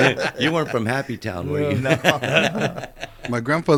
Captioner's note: laughter